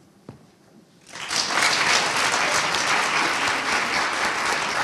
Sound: audience applauding

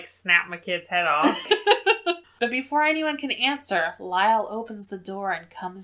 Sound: laughs

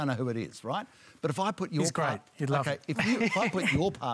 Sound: laughs

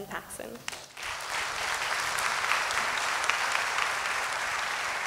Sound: applause

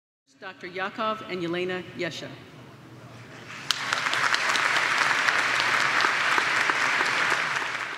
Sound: applause

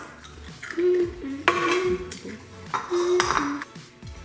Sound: hums

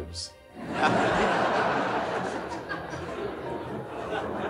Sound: all laughing

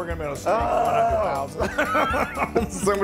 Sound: laugh

